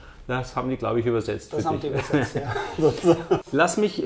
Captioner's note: laughs